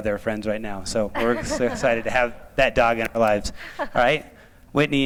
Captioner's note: laughter